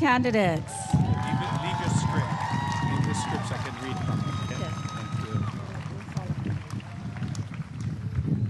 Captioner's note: applause and cheering